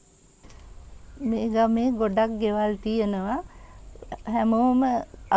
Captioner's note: speaking in foreign language